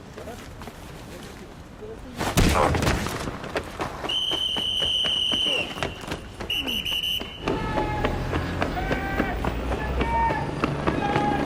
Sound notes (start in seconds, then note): 4.0 whistle blowing